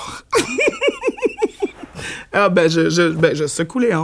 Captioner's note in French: éclat de rire